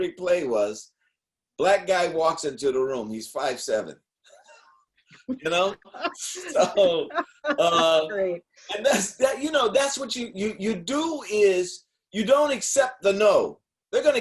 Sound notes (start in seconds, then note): 5.3 laughing